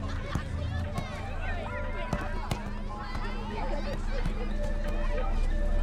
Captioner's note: children chattering; football thudding